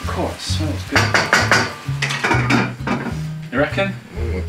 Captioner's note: metallic banging